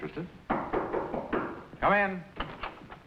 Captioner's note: knocking